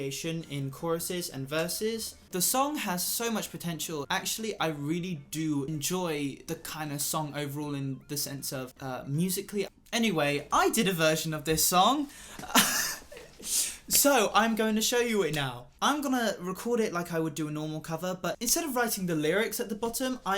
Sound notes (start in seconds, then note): 12.4 laughs